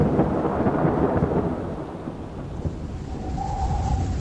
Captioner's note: wind howls